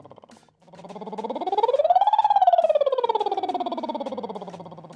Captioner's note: trilling